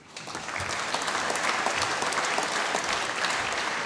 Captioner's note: applause